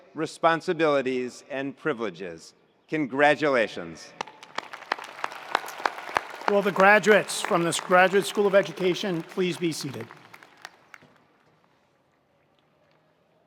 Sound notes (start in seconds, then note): 4.2 attendees applauding; 4.4 attendees cheering